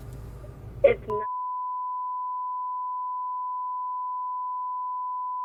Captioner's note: beep